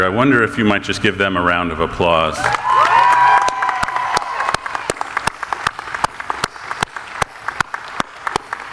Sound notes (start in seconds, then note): 2.4 audience applauding